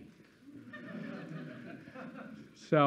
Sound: students laughing

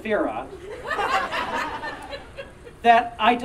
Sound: audience Laughing

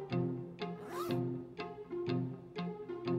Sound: zip unfastens

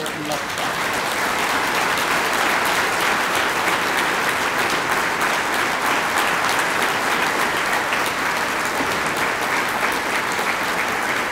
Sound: applause

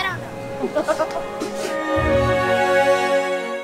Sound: laughing

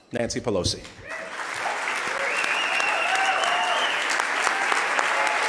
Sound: loud clapping

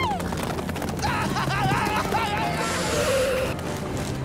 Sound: screaming

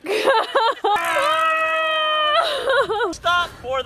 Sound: laughs; family yelling

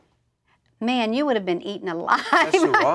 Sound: laughs

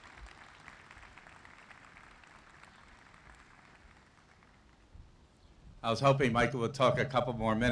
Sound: applause

